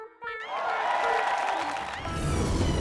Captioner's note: cheers and applause